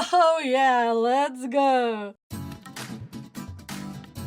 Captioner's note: anime girl onii-chan sound